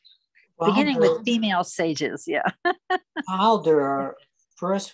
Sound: chuckles

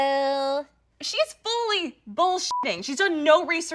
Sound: beep

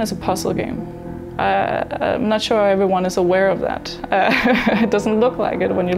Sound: chuckles

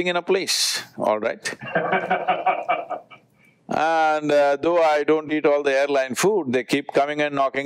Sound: Vusi laughs

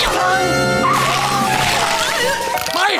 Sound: siren wailing

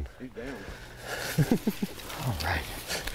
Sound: laughter

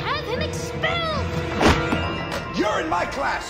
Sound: slam

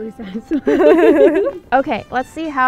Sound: laughing

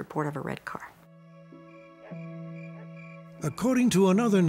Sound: crickets

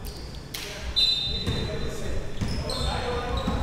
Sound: whistle

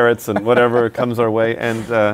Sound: laughs

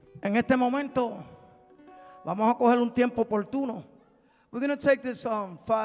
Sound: man speaking in Spanish

